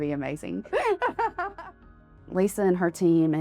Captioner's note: laughs